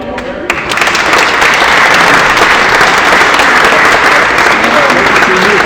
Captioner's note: applause